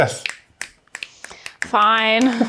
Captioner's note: fingers snapping